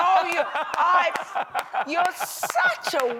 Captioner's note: laughs